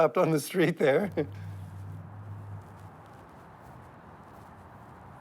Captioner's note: car whirring